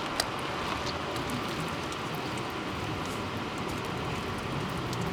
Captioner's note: water sploshing